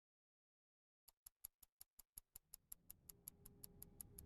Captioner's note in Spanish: tic-tac de reloj